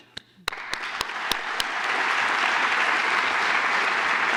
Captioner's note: applause